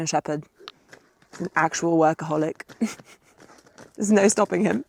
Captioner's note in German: lacht